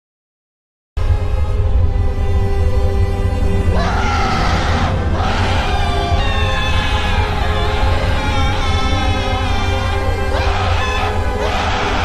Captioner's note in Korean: 비명